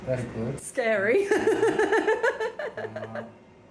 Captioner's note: laughing